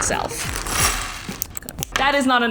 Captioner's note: blocks clattering and clicking